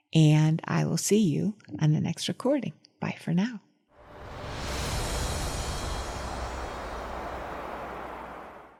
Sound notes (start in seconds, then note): 4.0 wind whooshing; 5.7 soft music